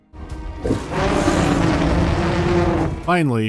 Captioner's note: happy mammoth noises